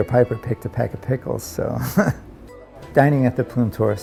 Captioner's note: chuckles